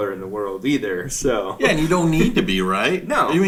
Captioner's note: laughs